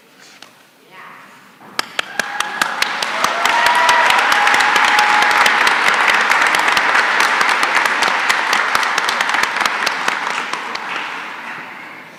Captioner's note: applause